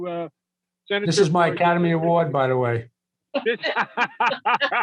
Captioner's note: laughter